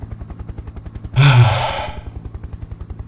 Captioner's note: sighs